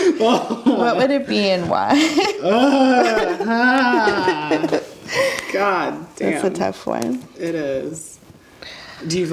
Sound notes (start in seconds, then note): 1.9 laughing; 2.4 groans